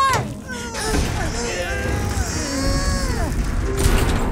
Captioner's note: all grunt, straining